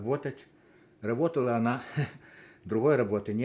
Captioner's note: laughing